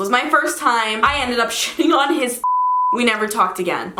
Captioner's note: beep